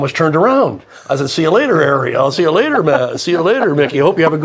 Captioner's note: chuckling